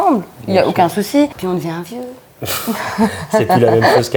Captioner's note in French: rires